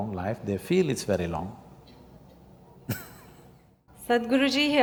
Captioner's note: laughs